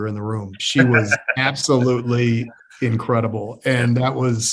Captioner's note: laughs